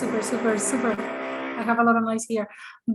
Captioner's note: motor grinding